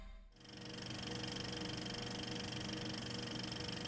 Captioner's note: film reel clicks